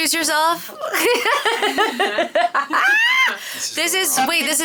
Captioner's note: laughing